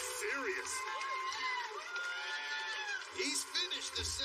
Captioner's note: cheers and applause